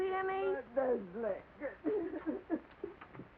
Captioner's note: crying